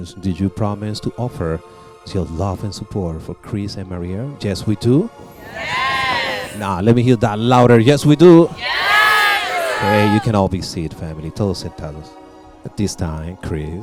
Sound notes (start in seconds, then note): 5.2 crowd responds; 8.3 crowd again